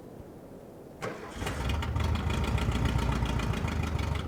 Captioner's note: engine revving